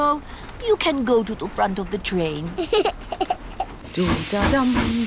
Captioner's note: giggles